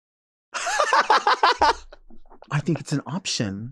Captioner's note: Nymphia laughing